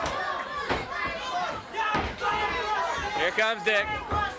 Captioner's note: body thudding; crowd clamoring; footsteps plodding